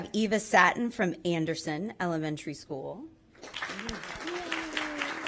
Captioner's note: applause